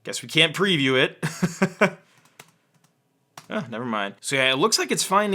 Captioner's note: laughs